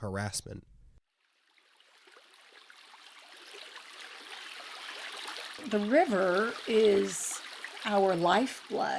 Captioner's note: running Water Sounds